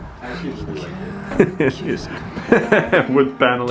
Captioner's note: laughs